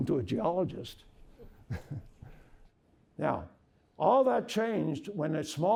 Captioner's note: laughter